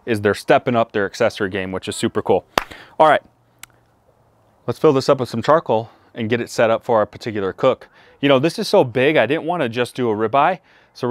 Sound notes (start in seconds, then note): 2.8 claps